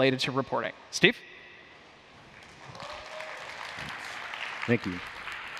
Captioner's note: applause